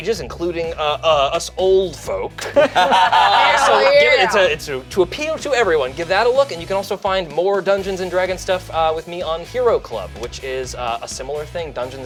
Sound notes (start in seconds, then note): 2.4 everyone laughing